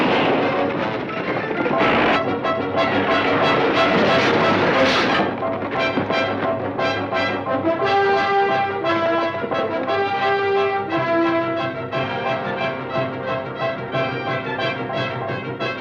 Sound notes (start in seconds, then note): 0.3 gun fires; 4.1 wagon clatters